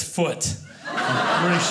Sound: audience laughing

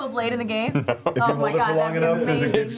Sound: chuckling

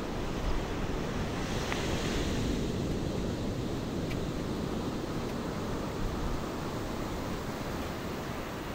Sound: ocean waves crashing; crash of ocean waves and stepping through water; loud hum of ocean waves

